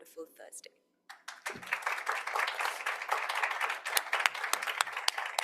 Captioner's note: audience applauding